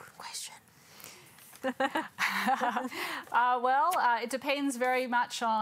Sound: both laugh

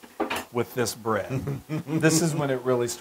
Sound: laugh

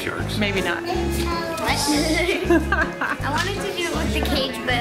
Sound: laughing

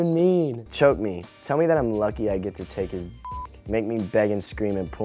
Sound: beep

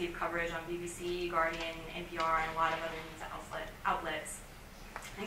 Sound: stumbling

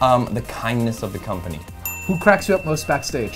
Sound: bell dings

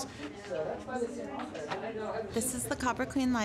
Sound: chatter

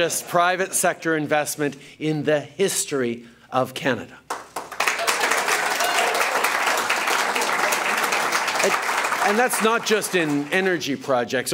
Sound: applause

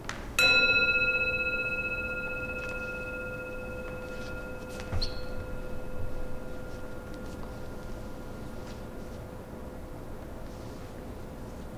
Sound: gong

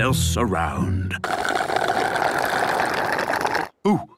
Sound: slurping

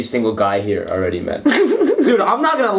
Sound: giggles

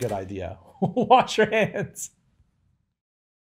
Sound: laughing

